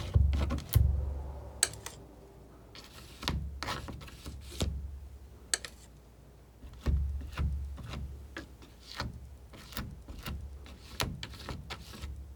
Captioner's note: scratching